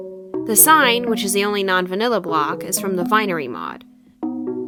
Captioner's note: none